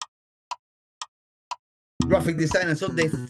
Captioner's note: clock Ticking